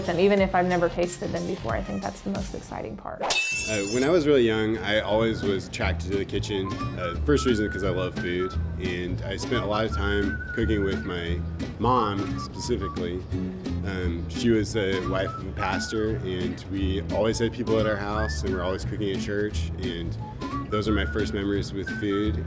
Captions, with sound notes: Even if I've never tasted them before. And that's the most exciting part. (knives sharpening) When I was really young I always was attracted to the kitchen. First reason, because I love food, and I spent a lot of time cooking with my mom, specifically. And she was a wife of a pastor and we always had people at our house and we're always cooking in church. And those are my first memories with food